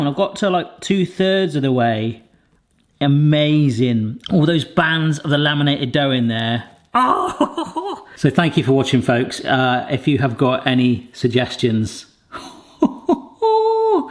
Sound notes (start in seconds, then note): 12.4 laughs